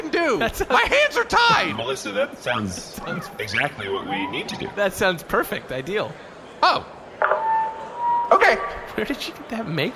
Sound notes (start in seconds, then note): 7.2 feedback from a megaphone turning on